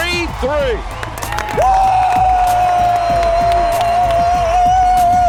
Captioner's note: cheering and applause